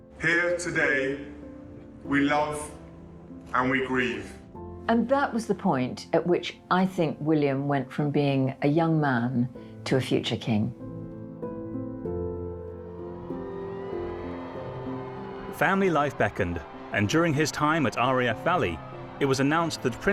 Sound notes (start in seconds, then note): 11.0 calm music; 12.6 crowd cheering